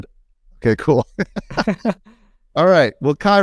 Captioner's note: both laugh